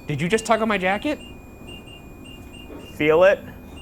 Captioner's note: REM pod beeping